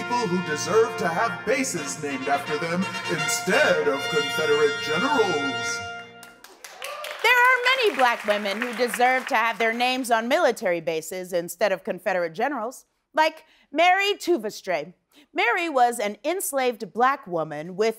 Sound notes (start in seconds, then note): 6.2 applause